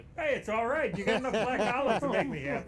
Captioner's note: both laughing